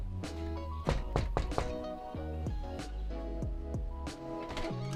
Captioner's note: knocks